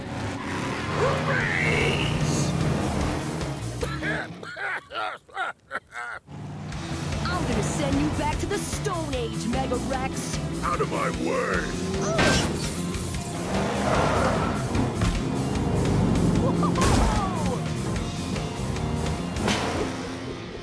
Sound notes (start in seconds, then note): 3.7 coughing; 11.7 grunting; 15.0 revving